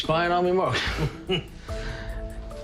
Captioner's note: chuckles